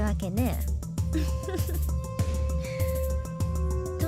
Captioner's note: chuckle